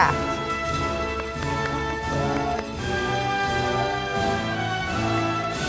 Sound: audience applauding

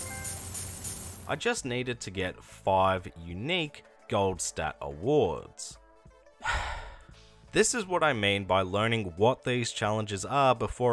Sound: sigh

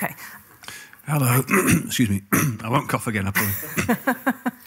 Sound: coughs

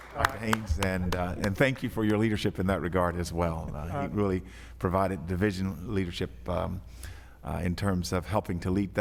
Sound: applause

